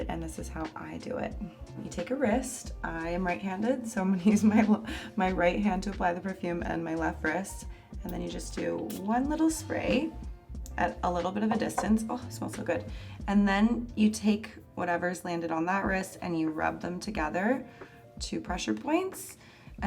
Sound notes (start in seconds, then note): 4.7 laughs; 8.8 perfume spraying